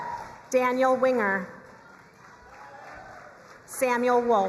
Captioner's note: crowd cheering and applauding